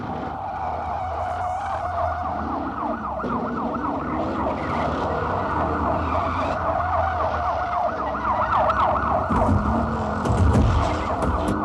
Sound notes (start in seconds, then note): 0.0 police sirens blaring; 0.3 car engines revving; 3.0 police sirens blaring; 8.3 car engines revving